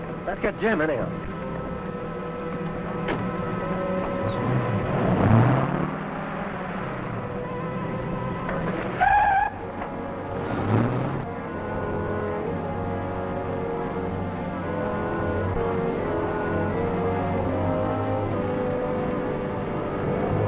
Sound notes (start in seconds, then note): 3.1 metallic thudding; 4.6 engine revving; 9.0 engine revving; 9.0 tires screeching; 11.7 tense music